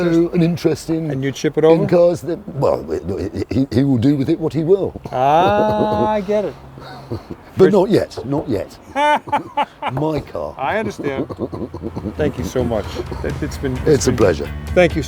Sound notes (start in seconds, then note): 6.8 laughing; 11.9 laughing